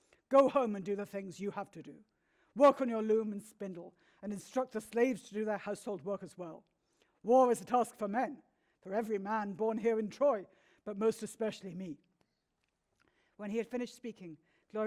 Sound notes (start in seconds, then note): none